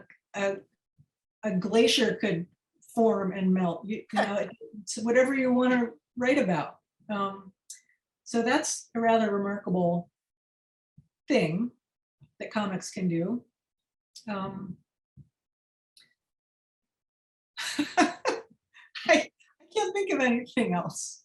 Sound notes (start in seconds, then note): 13.4 laughter